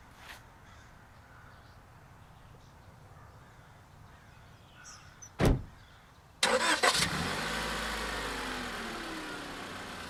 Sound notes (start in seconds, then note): 6.4 car revs